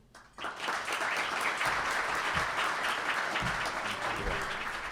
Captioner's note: audience applauding